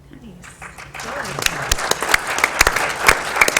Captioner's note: applause